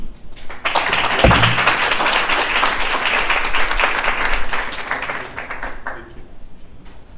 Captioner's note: applause